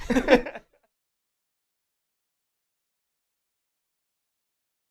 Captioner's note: laugh